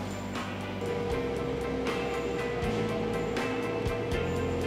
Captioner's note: nitrogen tunnel whirring